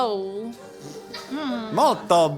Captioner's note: laughing